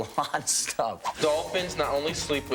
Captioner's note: swishing noise